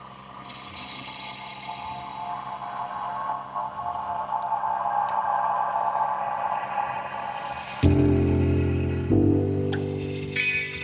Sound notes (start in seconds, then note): 2.8 distorted sounds; 7.8 closing music